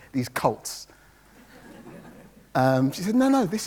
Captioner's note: audience laughs